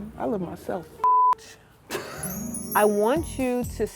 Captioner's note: beep